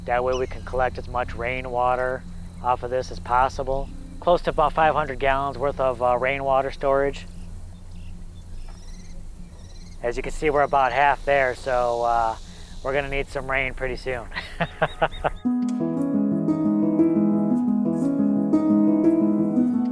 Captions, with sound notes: That way we can collect as much rain water off of this as possible, close to about 500 gallons worth of rain water storage. As you can see, we're about half there, so we're gonna need some rain pretty soon. (laughs) (bright gentle music)